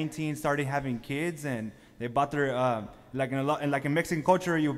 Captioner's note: speaking foreign language